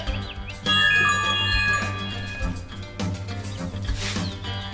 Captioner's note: bird chirping; phone jingle